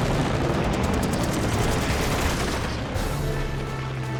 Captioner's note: gunfire